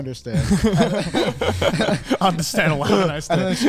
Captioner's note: all laugh